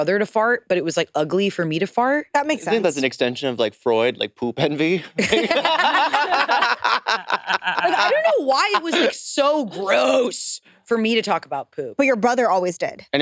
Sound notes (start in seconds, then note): 5.1 participants laughing